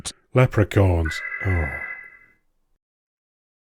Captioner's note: alarm